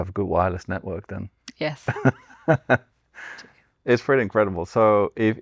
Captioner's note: laughs